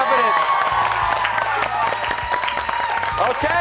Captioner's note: cheers and applause